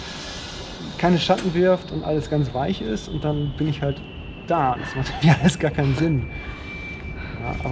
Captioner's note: laughs